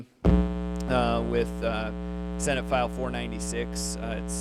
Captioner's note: computer droning